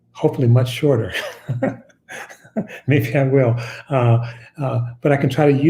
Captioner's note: chuckles